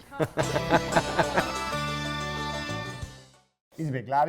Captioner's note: both laughing